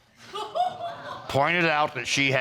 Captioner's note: audience laughing